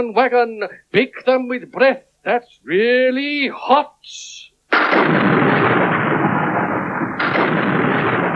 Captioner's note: sound Of Thunder